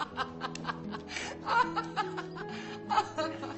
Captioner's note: vicky laughs